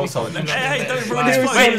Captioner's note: sniggering